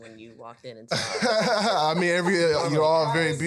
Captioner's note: laughing